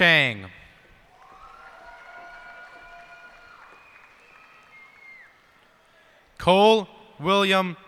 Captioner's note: cheers and applause